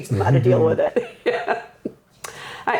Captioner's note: laughing